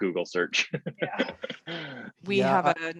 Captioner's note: chuckles